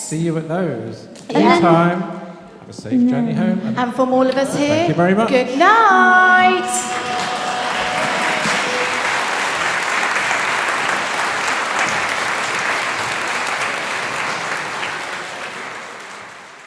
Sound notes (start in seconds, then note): 6.5 applause